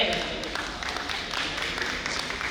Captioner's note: audience applauding